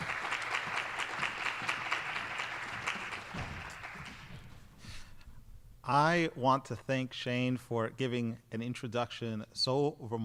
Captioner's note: applause